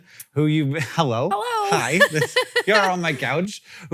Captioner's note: laughs